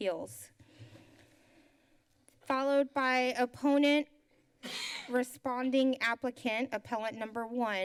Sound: coughs

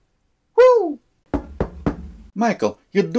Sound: knocking

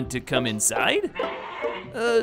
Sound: muffled bleating

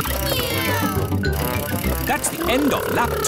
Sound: kids imitating vehicle sounds

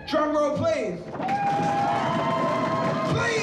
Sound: cheering

